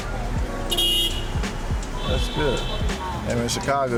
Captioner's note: cars honk